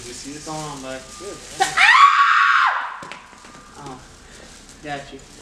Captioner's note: high pitched scream